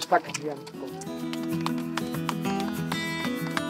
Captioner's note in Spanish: Aplausos